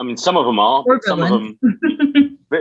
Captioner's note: laughs